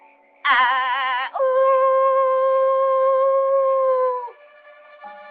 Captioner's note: howling